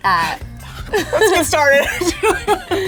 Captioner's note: whispers; laughing